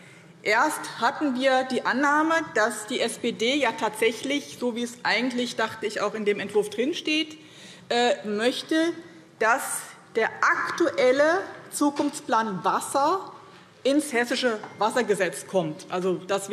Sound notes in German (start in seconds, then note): none